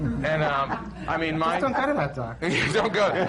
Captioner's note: laughter